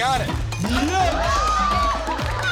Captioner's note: cheers and applause